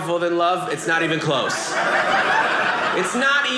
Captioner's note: audience laughing